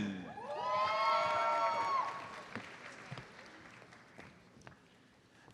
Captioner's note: audience cheers and applauds